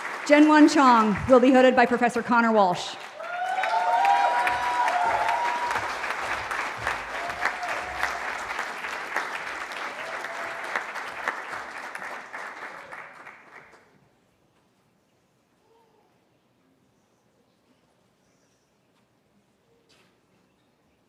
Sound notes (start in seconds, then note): 3.3 cheering